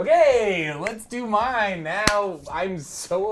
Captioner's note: fingers click